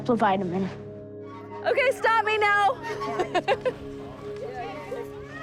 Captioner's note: laughs